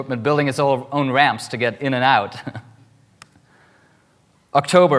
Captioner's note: laughs